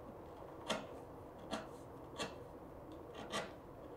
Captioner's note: tool scraping